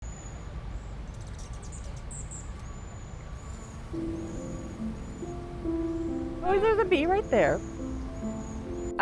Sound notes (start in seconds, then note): 0.0 nature sounds